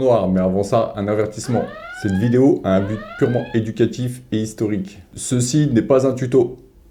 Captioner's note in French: sirène